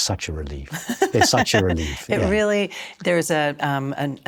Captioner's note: laughs